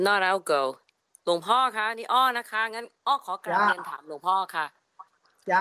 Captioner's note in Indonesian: Seorang umat bertanya dalam bahasa Thai